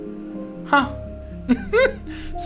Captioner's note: laughs